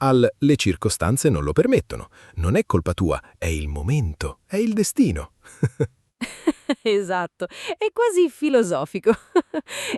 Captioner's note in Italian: risate